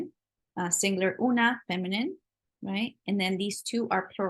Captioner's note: spanish